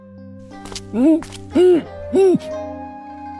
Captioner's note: groans